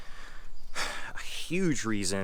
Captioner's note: exhales